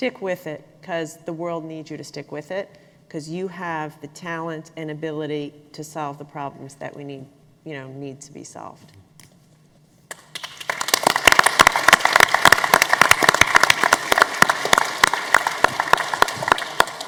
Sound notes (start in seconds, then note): 10.1 applause